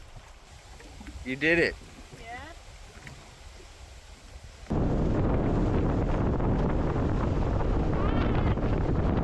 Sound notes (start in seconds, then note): 3.3 loud wind